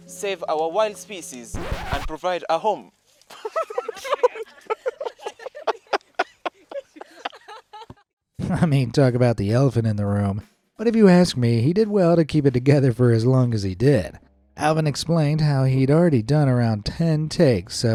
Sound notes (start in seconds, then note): 3.3 laughing; 3.5 film crew laughing